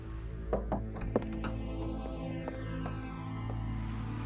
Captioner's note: knocking